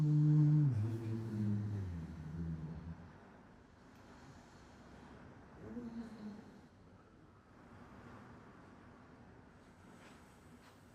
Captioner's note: hums